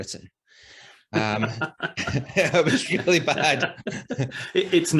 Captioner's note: both laugh